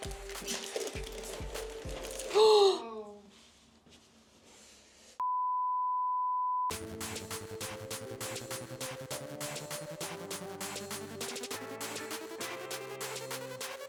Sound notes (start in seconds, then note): 2.2 loud beeping; 2.3 gasping; 6.7 bright upbeat music